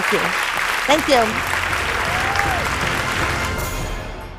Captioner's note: applause